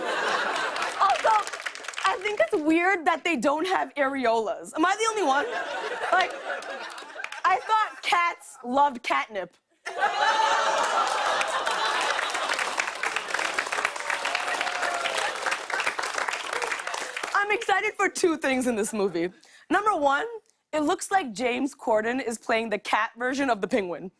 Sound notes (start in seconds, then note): 9.8 laughter and applause